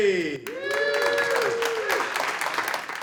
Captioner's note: cheers and applause